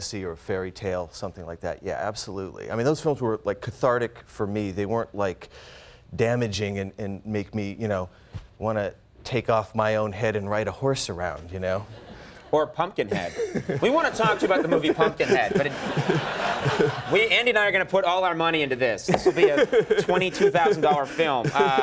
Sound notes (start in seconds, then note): 13.1 Tim and audience laughing; 15.7 audience laughing